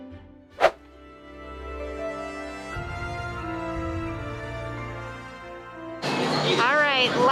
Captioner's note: swipe